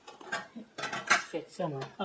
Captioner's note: clunk